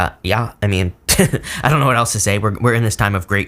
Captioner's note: reader chuckles